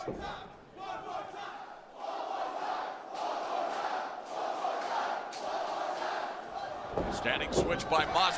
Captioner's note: crowd cheering